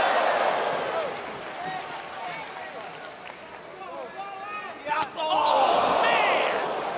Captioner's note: crowd cheering